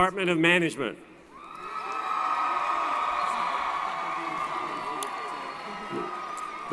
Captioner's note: applause & Cheering